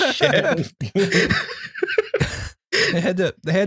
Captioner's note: laughter